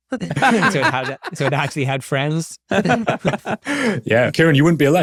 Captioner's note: chuckling